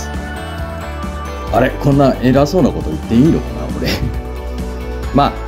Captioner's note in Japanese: 苦笑